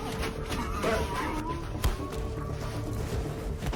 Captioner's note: grunts